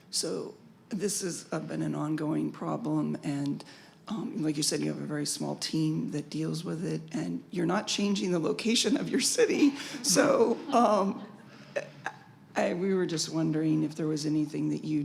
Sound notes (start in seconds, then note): 9.8 chuckles